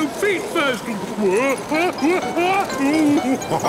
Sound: shouting; laughing, snorting

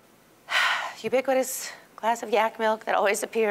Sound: sighing

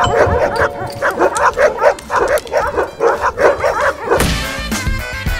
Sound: doorbell ringing; barking; thud

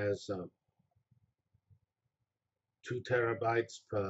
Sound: pause

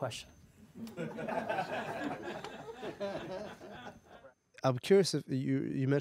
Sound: audience laughs

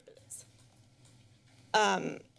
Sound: pause

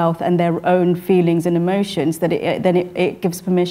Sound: none

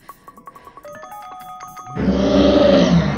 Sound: panting; bell ringing; Puto Monster growling

